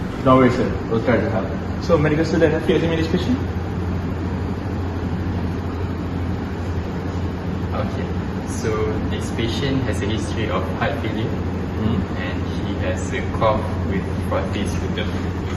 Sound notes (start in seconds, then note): 5.3 nurse whispering